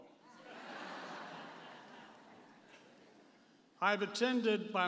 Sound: audience laughing

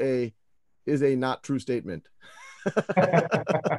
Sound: laughs

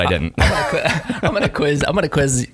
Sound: laughing

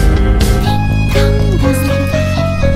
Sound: ding Dong

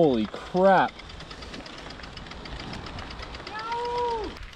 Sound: freewheel clicking; hoots

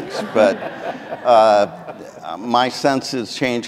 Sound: audience laughing

